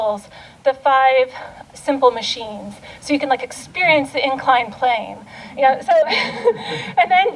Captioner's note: laughter